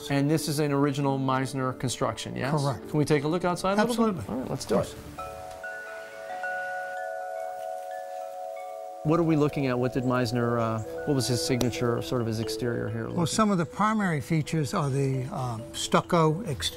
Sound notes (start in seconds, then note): 5.5 wind chimes